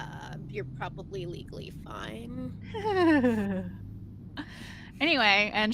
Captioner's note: Violette laughs